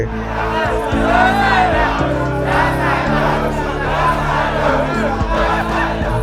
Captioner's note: fans Cheering